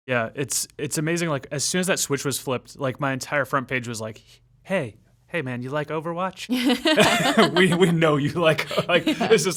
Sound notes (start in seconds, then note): 6.5 laughing